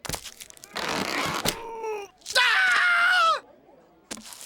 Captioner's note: screams